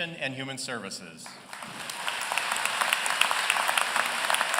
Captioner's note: applause